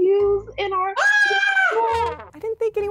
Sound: yelling

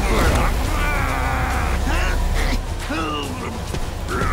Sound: grunting

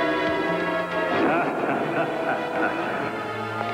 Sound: laughing

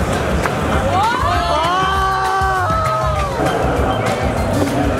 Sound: people clamoring

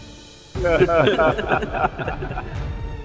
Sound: laughing

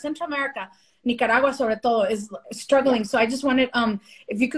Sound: speaking spanish

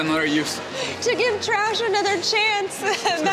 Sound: laughing

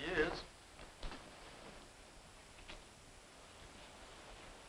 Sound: rain pattering

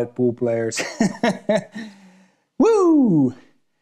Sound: laughing

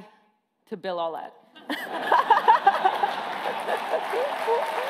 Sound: laughing

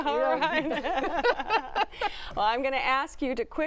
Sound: laughter

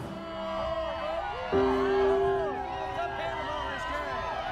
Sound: crowd cheering

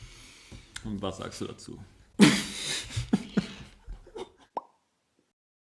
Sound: laughs

